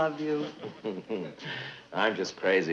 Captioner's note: Brad chuckling